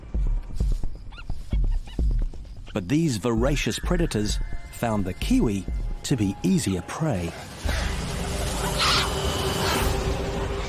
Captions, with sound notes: (stoat squeaks) But these voracious predators found the kiwi to be easier prey. (kiwi squawks)